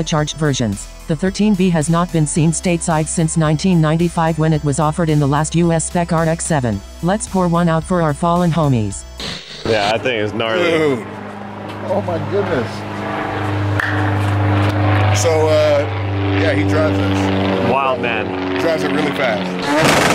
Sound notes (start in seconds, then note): 13.7 hands smack; 19.9 car engine speeding down track